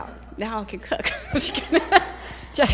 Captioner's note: laughter